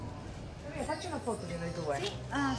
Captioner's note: speaks in Italian